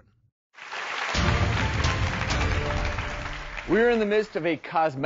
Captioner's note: audience cheering